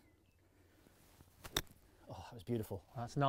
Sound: golf club hitting the ball

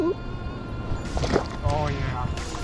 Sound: water splashes

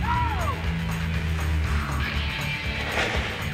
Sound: screams

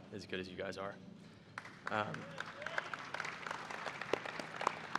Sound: applause

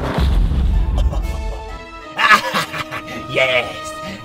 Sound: mischievous laugh

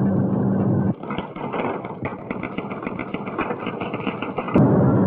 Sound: typewriter keytop clacking

